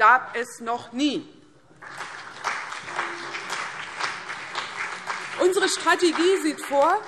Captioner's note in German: Beifall CDU und BÜNDNIS 90/DIE GRÜNEN